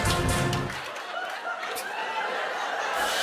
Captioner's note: fanfare; laughter; cymbal crash